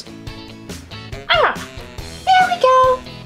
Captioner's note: grunt